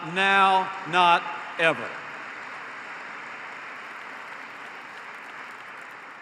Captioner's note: applause